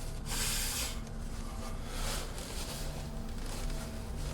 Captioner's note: respira fuertemente